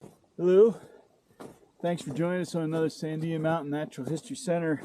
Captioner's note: snow crunching underfoot